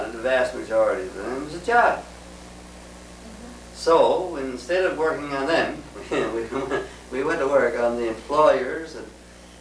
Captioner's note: laughs